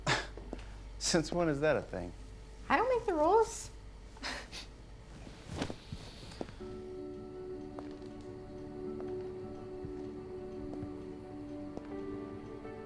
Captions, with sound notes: (scoffs) - Since when is that a thing? - I don't make the rules! (both scoff) (soft music)